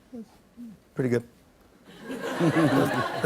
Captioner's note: laughter